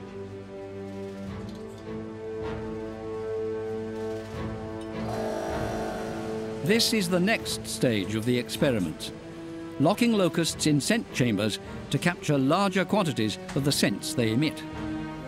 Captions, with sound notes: [buzzing] This is the next stage of the experiments: Locking locusts in scent chambers to capture larger quantities of the scents they emit.